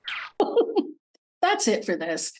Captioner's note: laughing